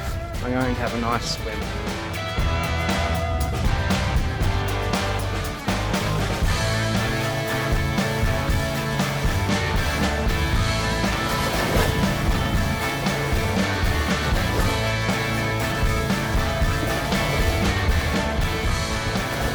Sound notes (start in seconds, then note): 12.2 splash